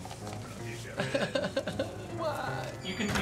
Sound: mock sobbing

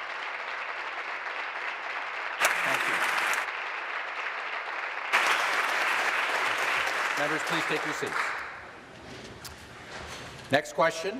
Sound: applause

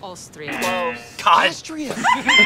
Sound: laughs; both laugh

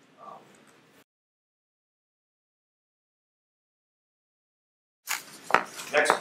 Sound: silence

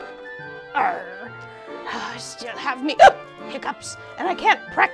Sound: hiccups

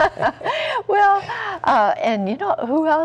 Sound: laughter

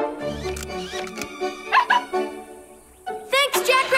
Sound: barking

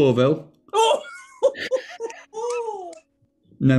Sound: chortling

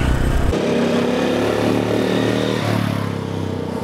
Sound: engine roars

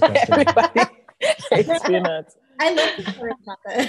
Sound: laughs

